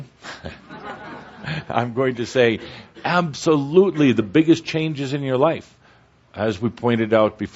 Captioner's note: chuckling